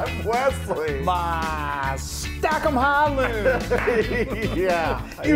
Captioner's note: laughs